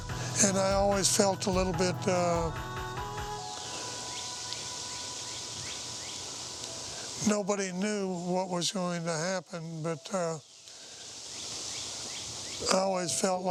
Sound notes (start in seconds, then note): 3.4 birds twittering